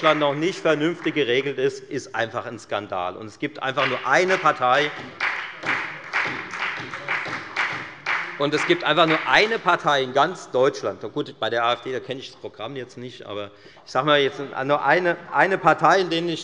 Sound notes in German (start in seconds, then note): 3.7 Beifall bei der FDP und der SPD